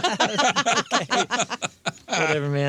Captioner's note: laughing